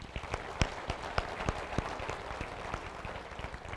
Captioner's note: applause